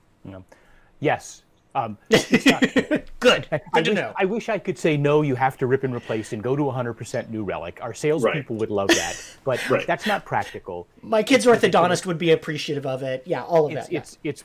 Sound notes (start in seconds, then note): 2.1 laughs